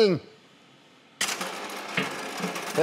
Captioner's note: Knistern